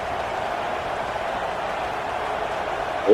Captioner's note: crowd Noises